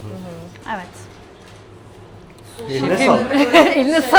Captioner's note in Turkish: kahkaha